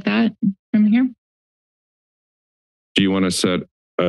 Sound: silence

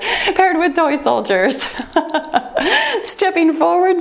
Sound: timer beeps

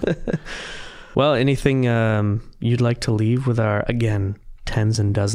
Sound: chuckling

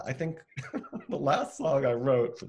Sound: laughing

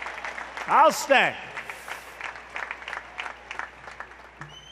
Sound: applause

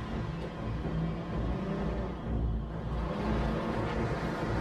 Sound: ignition Starts, Engine Revs

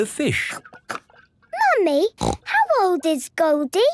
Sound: snorting

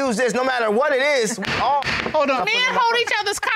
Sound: gavel bangs

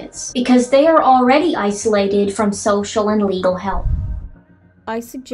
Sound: swoosh

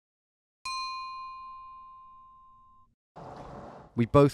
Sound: bell dinging

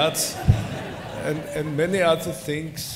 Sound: laughter

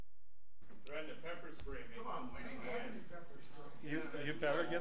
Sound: overlapping chattering

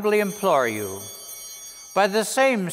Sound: bells ringing

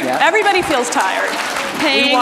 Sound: audience applause

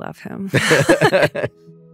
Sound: laughter

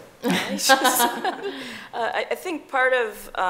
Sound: laughing

